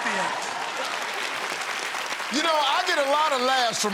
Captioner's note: applause